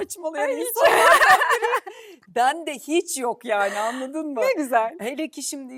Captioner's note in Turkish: kahkaha